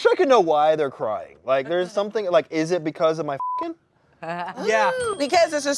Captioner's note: beep